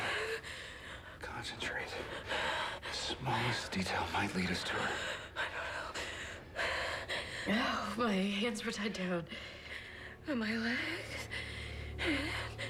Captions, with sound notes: OKAY, OKAY. OKAY. CONCENTRATE. THE SMALLEST DETAIL MIGHT LEAD US TO HER. (breathing heavily) I DON'T KNOW. OH, MY HANDS WERE TIED DOWN.